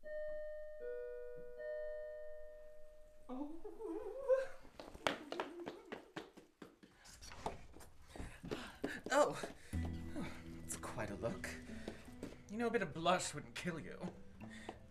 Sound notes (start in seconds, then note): 0.0 doorbell ringing; 4.6 footsteps; 8.0 gasping